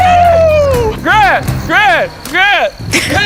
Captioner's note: chanting